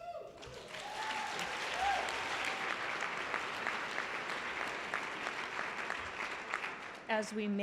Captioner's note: applause